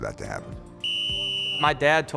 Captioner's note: whistle